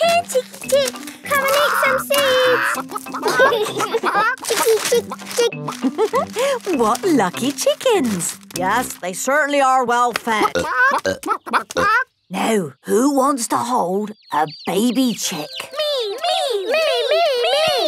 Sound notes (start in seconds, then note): 10.2 clucking